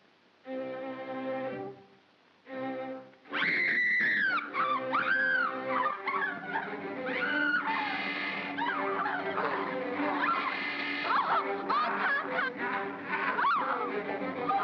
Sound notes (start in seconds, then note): 3.3 Bo Peep screams; 4.6 ominous music; 8.6 Barnaby growls; 9.4 ominous music; 12.7 ominous music; 13.0 Barnaby growls